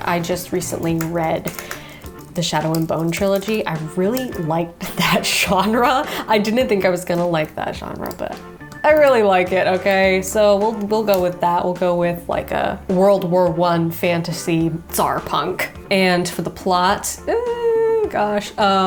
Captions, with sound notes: I just recently read the "Shadow and Bone" trilogy. I really liked that genre. (chuckling) I didn't think I was gonna like that genre. But I really like it, okay? So we'll go with that. We'll go with like a World War I fantasy Tsarpunk. And for the plot. Oh, gosh.